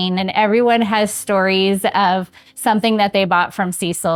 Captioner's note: none